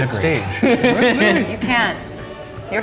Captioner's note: laughing